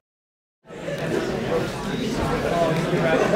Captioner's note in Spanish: conversación de fondo